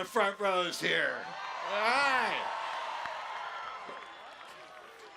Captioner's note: cheering